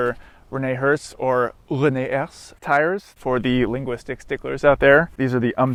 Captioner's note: French accent